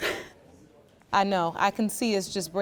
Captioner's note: crying